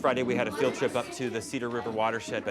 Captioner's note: children chattering